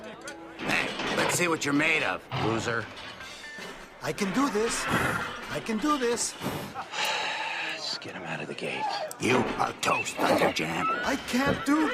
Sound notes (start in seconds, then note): 6.5 sighs